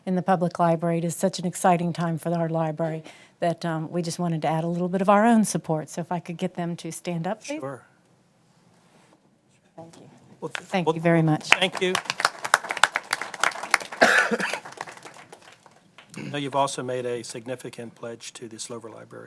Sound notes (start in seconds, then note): 11.4 applause